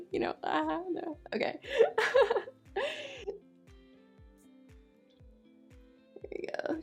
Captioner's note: chuckles